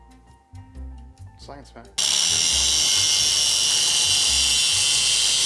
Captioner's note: gentle bright music; metal grinding